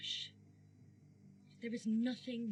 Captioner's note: white noise flickering